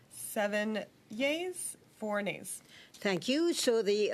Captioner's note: speaking French; speaking French